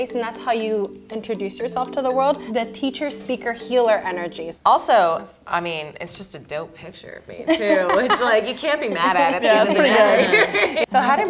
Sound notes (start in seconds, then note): 7.7 laughs